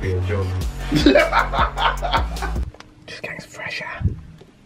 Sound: laughing

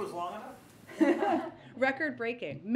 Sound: laughs

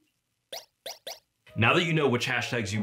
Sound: "pew, pew" sound effect

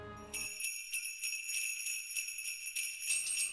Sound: sleigh bells

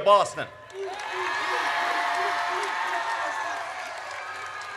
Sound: audience cheers

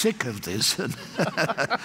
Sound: laughter

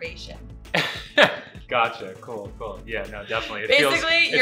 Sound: laughs

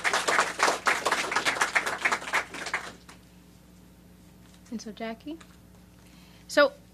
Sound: applause

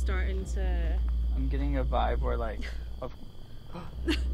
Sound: gasps

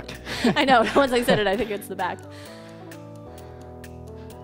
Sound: chuckles; upbeat music

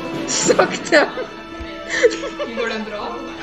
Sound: laughter

